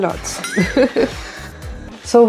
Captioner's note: laughs